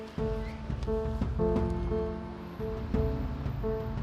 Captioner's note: streets bustling